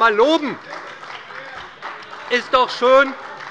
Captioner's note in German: Beifall bei Abgeordneten der SPD - Glockenzeichen des Präsidenten